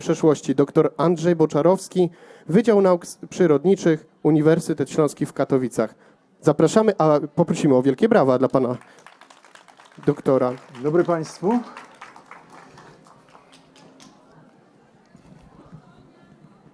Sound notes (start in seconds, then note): 12.3 applause